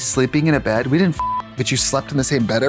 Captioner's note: beep